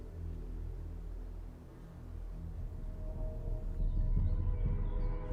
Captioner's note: birds chirping